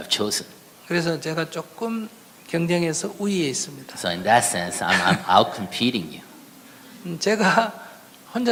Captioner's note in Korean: 스님과 청중 웃음